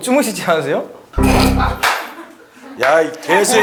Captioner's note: claps